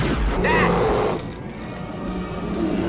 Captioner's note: bear growl